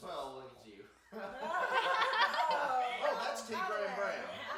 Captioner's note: group laughs